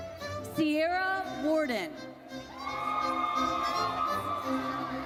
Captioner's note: audience cheers